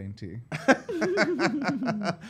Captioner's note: laughter